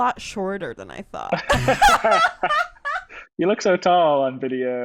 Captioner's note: laughs